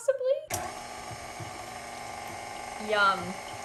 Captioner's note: whirring